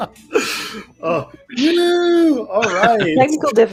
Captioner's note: laughs